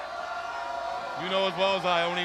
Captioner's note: crowd chatter